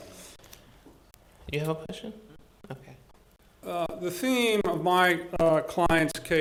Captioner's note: board chatting quietly